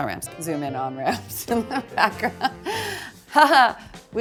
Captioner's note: laughs